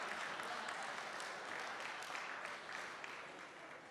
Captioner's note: applause